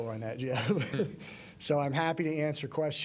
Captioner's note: laughter